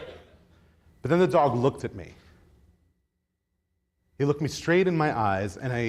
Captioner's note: audience laughs